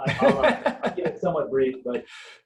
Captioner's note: laughing